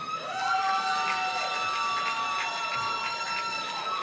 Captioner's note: applause